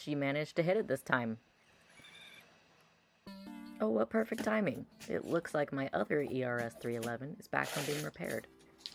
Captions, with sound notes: She managed to hit it this time! (synth music playing) Oh what perfect timing! It looks like my other ERS-311 is back from being repaired! (packaging rustling)